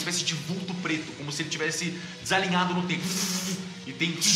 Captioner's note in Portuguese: estática